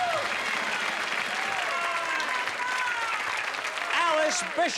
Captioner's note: cheers and applause